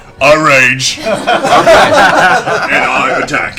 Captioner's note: laughter